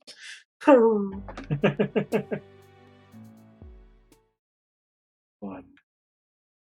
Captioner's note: laughs